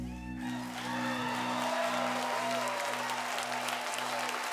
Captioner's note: crowd cheering